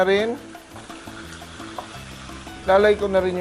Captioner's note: sizzle